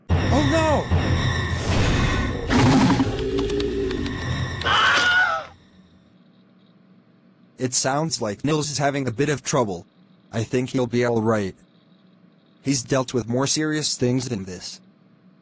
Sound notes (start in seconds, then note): 2.5 zombie growl; 4.5 scream